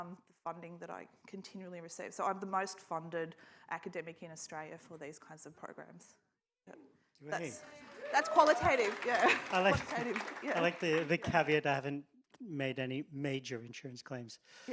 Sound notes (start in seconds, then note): 7.3 audience claps and cheers